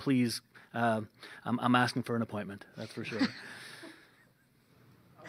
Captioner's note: laughter